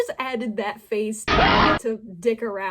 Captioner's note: fnaf door jumpscare